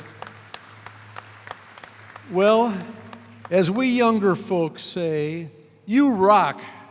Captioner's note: applause